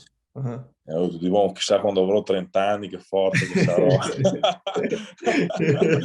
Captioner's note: laughs